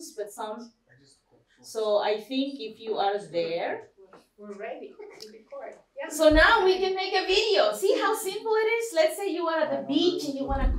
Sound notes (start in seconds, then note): none